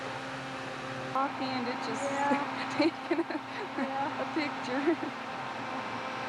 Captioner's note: laughs